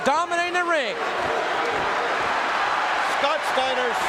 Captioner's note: audience cheering